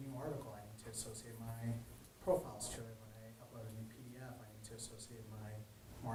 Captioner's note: man speaking faintly off microphone